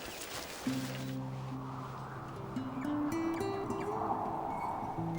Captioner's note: wind blowing; calm guitar music